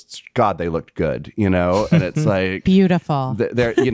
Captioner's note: chuckling